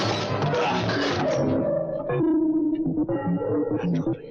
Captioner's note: both grunting